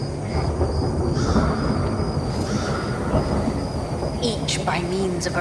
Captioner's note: thunder rumbling